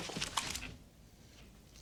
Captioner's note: guns clicking